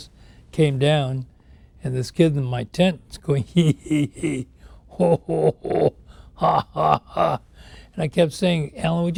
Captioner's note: laughing